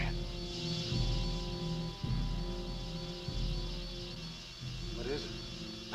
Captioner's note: muffled wasps buzzing